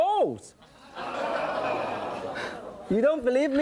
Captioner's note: audience laughing and groaning